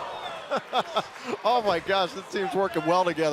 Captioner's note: crowd chatter